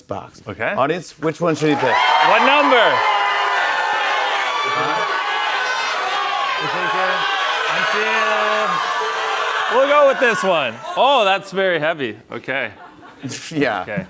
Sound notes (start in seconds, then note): 3.0 audience shouting; 5.2 shouting continues